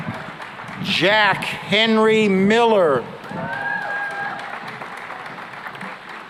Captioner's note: cheering and applause